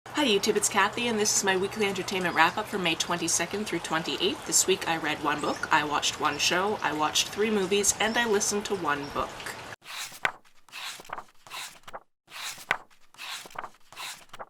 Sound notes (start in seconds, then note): 9.8 pages turning